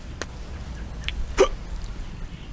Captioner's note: hiccup